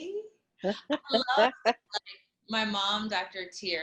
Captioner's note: laughing